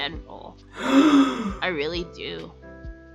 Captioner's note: audible gasp